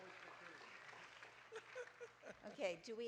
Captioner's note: audience cheering; group laughing